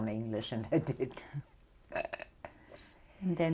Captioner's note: laughs